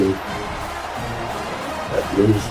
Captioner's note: crowd Noises